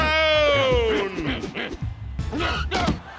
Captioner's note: grunting